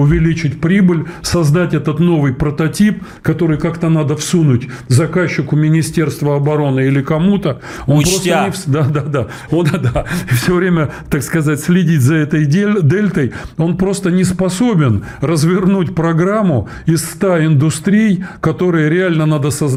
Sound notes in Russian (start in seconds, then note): 9.5 смех